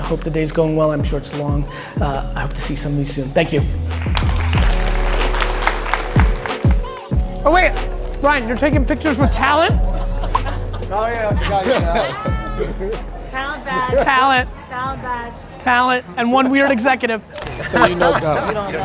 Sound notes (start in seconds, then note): 3.9 applause